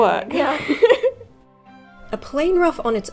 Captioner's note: laughing